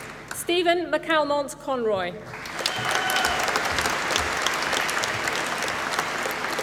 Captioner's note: applause